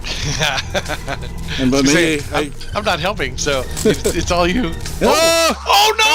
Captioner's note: laughing